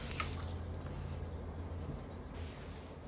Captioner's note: birds chirping